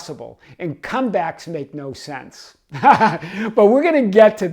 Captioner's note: laughs